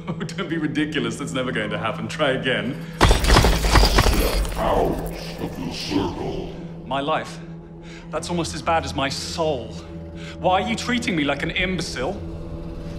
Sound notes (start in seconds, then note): 3.2 banging on ceiling